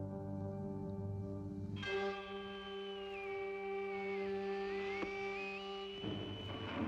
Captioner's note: static whirrs